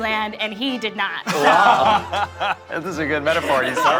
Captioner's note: people laughing